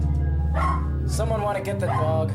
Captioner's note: bark